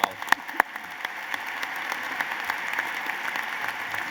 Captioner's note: applause